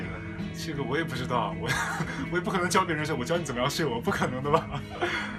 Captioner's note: laughs